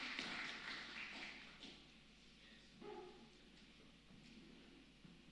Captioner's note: applause